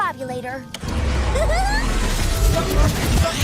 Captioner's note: laughs